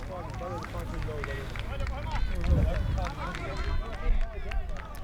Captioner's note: fans clapping rhythmically